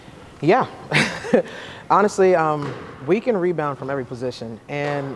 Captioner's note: chuckles